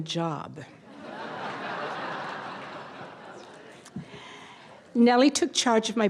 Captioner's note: audience laughter